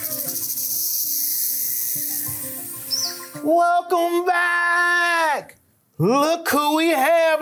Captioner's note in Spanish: música suave; suena el silbato; animales haciendo ruidos